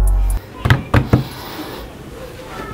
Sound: desk banging sound

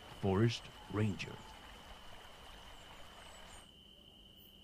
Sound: water running and crickets chirping

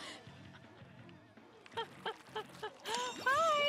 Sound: laughing

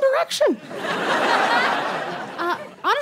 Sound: audience laughs

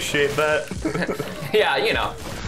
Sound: both laugh

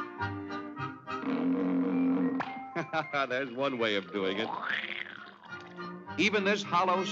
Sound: chuckles

